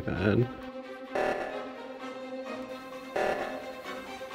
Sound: loud beeping

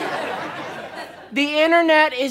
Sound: audience laughter

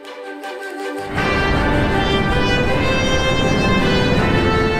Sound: rocket Launching

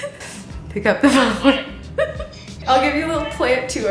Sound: laughs

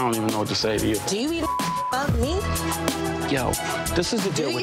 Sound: beeps

